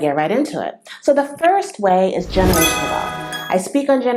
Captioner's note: sound effect